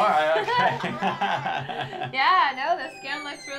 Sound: laughing

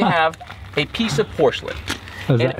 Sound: spanner smacking

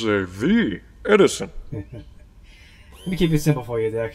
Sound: Ace chuckles

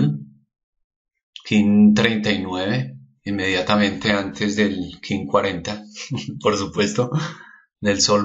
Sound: he laughs

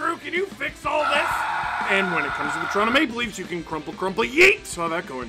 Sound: screaming

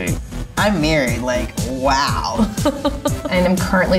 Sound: laughing

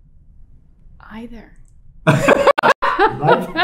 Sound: laughter

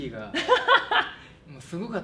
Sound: laughs

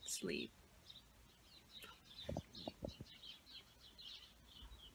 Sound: chirp chirp chirp

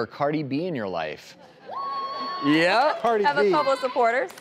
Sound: audience applause

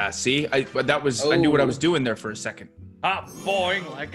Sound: none

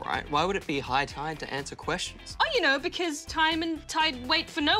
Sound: none

